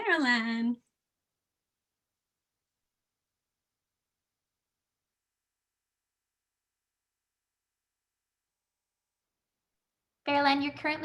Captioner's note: silence